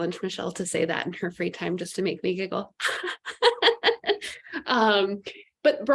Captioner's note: laughs